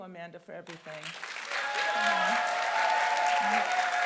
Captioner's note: applause